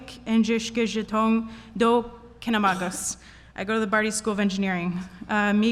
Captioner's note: Speaking in Ojibwe